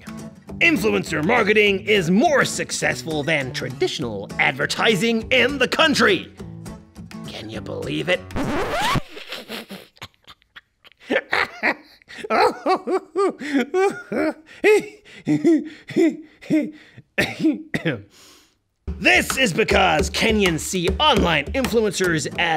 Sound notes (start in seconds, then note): 8.8 laughs